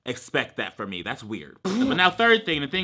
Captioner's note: blows raspberry